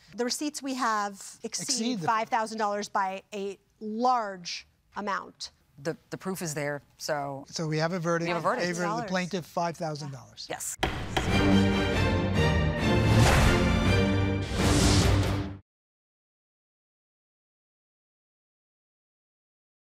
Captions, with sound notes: The receipts we have exceed $5,000 by a large amount. - The proof is there, so. - So we have a verdict. - We have a verdict. Favor of the plaintiff $5,000. - Yes. (gavel banging) (dramatic music)